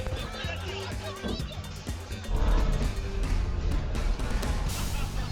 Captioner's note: driver yelling in a foreign language; audience laughing; upbeat music; audience laughing